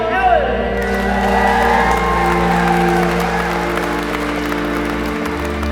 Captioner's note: crowd cheering and applauding